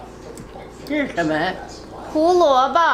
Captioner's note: grandma speaking Chinese; speaking Chinese